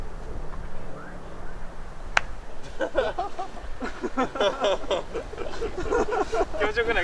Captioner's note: laughter